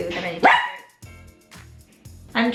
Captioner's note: barking